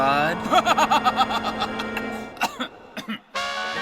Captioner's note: menical laugh